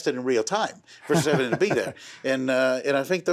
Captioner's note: laughs